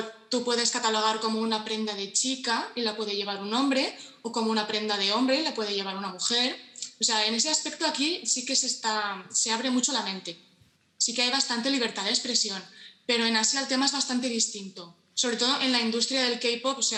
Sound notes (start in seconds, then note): none